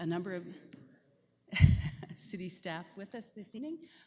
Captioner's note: laughter